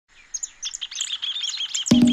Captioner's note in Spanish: Sonido de pájaros